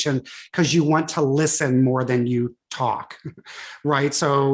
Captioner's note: chuckles